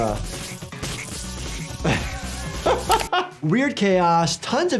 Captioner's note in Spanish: el doctor se ríe